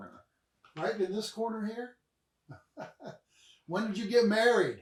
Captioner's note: chuckles